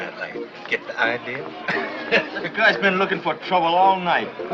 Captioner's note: laughs